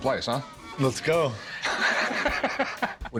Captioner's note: laughter